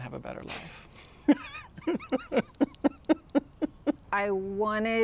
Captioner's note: laughs